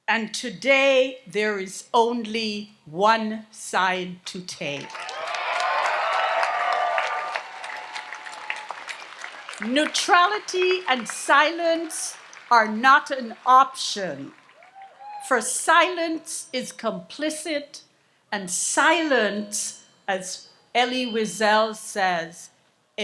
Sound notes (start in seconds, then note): 4.8 audience applauds and cheers